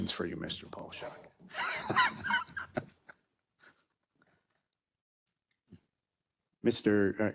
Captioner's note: laugh